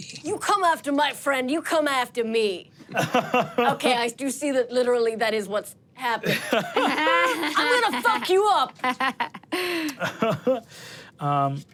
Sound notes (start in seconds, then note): 3.0 laughs; 6.3 everyone laughs; 10.3 chuckling